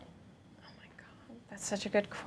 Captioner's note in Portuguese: sussurra